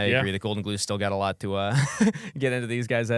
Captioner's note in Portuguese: risos